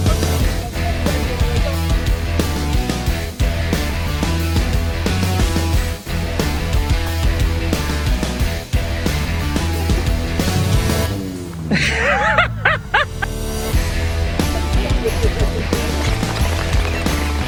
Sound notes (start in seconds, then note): 0.0 heavy metal music; 11.6 laughs